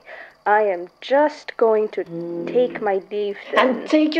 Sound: chair creaking

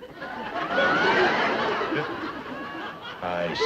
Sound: audience laughs

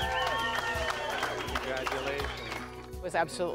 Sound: crowd cheering

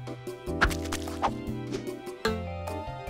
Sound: paint sloshes

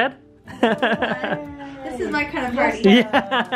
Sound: laughs

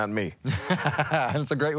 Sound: laughing

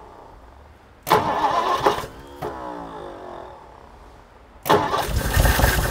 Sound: engine struggling to start

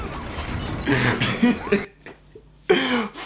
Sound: chuckles

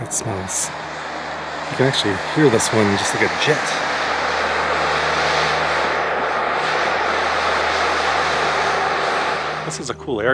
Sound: air whooshing

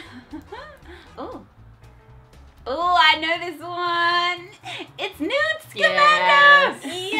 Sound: chuckle

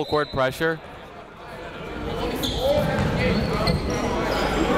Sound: chatter

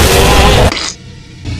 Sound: splat

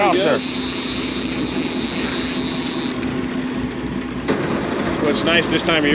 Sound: reel cranking

